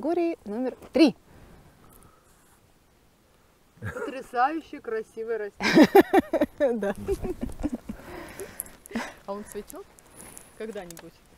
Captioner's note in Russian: смех